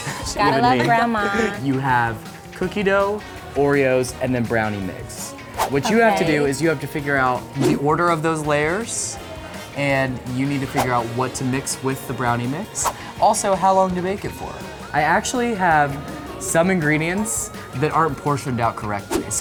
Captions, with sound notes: - Gotta love grandma. (laughter) - You have cookie dough, Oreos, and then brownie mix. (woosh) What you have to do is you have to figure out the order of those layers, and you need to figure out what to mix with the brownie mix, also how long to bake it for. I actually have some ingredients that aren't portioned out correctly.